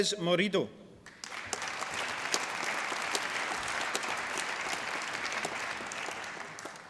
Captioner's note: applause